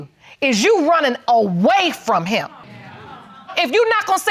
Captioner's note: audience exclaiming